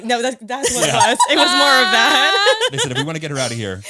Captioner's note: laughs